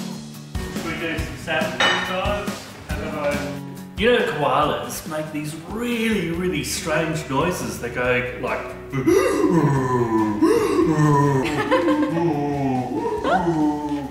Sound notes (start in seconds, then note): 8.9 grunts like a koala; 10.8 all laugh